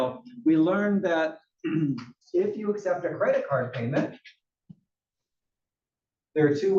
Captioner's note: cough